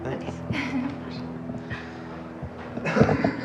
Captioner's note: giggling